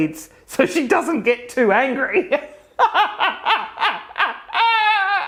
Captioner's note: laughs